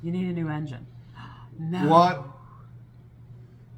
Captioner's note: gasp